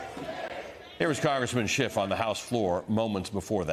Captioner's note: crowd chanting